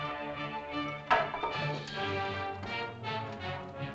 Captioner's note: suspenseful music; staff clatters; suspenseful music